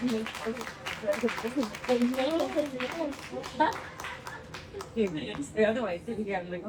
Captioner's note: applause